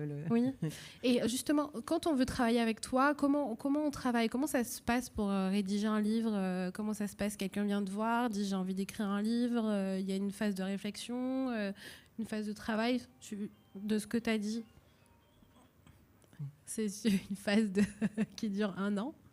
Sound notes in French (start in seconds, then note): 12.4 Un GSM sonne dans la salle; 17.7 Rires